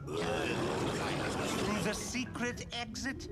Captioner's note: crowd mumbles